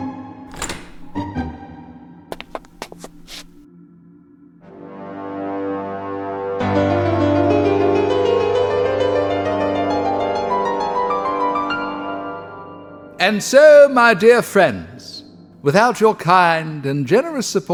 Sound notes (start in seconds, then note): 2.3 footsteps; 5.9 dramatic music